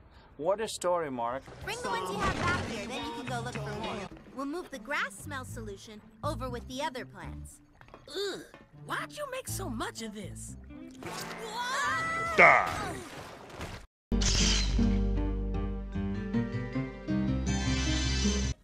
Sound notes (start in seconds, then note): 14.1 electric noises; 14.2 crash